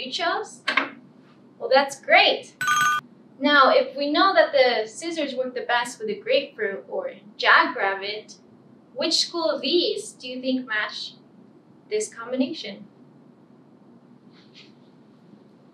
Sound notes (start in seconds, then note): 2.6 ringing bell